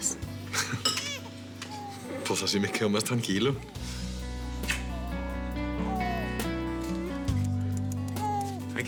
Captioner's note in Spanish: Vagidos de la bebé